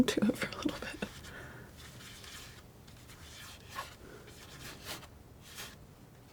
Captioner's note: scratching